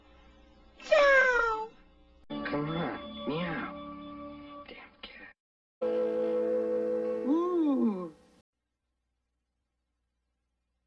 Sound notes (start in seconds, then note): 0.7 Mimsie mewing